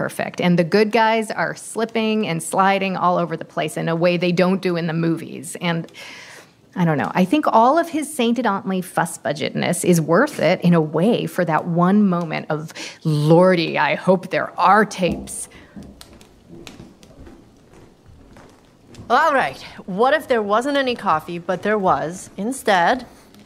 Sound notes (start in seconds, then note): 15.6 approaching footsteps; 17.6 fire crackling